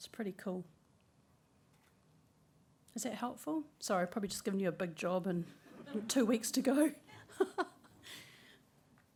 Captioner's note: laughter